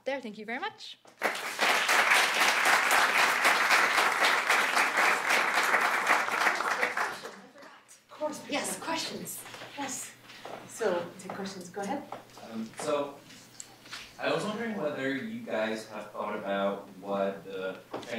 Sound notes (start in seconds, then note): 1.1 applause